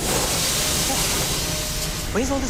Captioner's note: electronic alarm